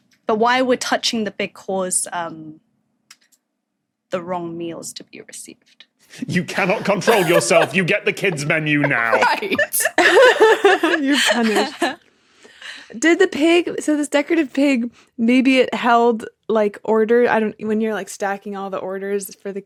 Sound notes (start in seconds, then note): 9.9 guests giggling